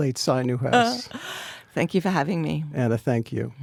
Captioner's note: Anna laughs